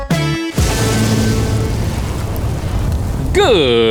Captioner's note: fire blazing